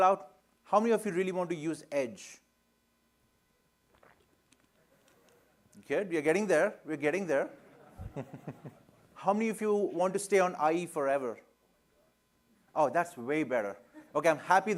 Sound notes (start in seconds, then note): 3.8 laughter